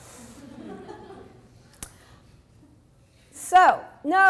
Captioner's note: audience laughs